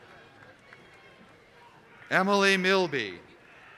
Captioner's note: applause